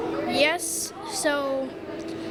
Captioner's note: none